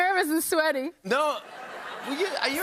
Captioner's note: laughter